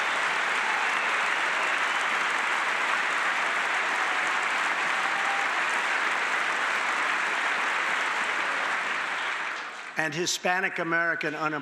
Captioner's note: applause